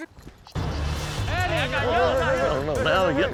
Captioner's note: overlapping chatter